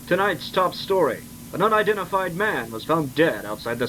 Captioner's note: none